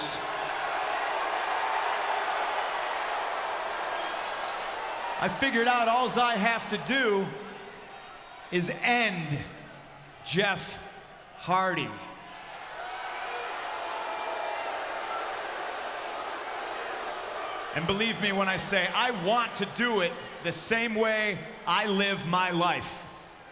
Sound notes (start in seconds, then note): 12.5 crowd cheers and boos